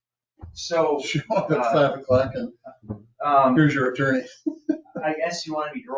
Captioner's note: laughs